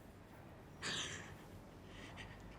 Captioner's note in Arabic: ينتحب بهدوء